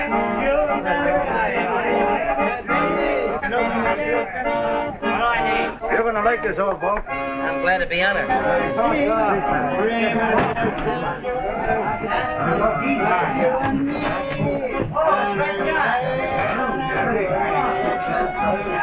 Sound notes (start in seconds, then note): 0.3 voices and accordion music; 10.0 ambient of the crew